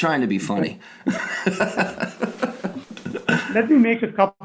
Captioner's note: laughing